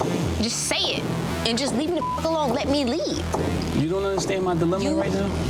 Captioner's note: beep